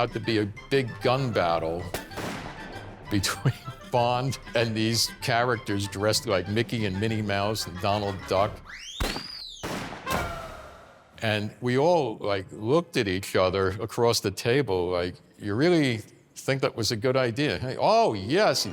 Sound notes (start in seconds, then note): 1.9 gunshot; 8.9 gunshots